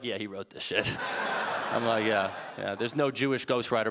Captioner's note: audience laughing